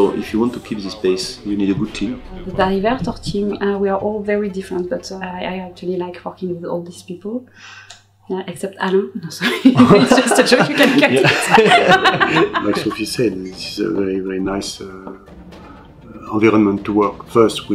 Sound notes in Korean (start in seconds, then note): 9.4 웃음